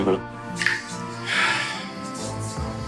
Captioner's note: sighs